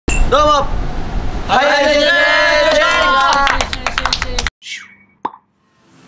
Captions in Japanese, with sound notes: どうも！ HiHi Jetsでーす！ よいしょーぉ！ よいしょよいしょよいしょよいしょ（早口） （拍手：パチパチパチパチ）